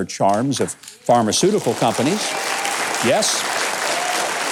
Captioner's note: audience applauds